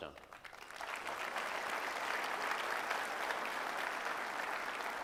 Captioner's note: audience applauding